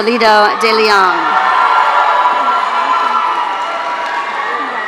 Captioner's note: audience cheering